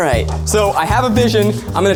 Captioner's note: laughs